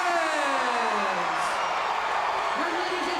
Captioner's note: crowd cheering